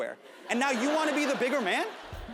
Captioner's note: audience laughs